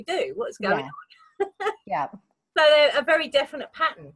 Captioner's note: laughs